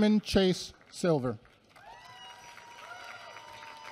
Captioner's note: applause